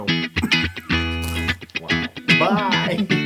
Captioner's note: laugh